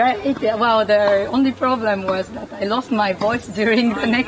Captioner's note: laughs